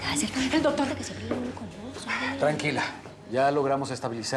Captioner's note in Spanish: miriam murmura